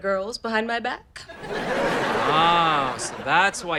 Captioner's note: audience laughter